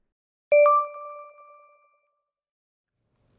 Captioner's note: beeping